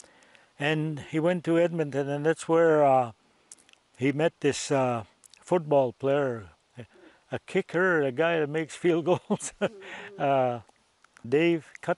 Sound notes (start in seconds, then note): 9.1 laughs